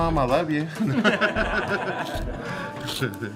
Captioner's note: laughter